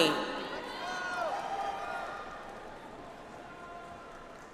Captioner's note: audience applauds